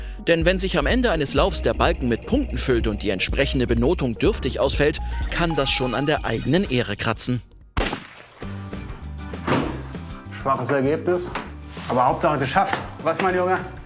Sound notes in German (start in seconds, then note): 7.7 Schuss; 8.0 Lockere Musik